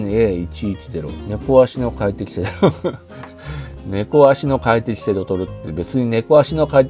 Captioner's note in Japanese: 笑い